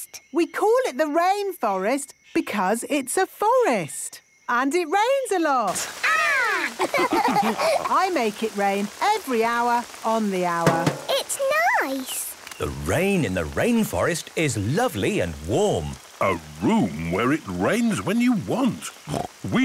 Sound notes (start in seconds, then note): 6.6 all laughing; 10.6 taps